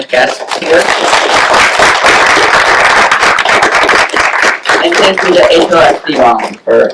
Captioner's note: applause